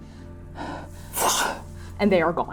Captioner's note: breathing heavily; fwooshing